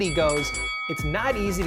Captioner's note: ringing bell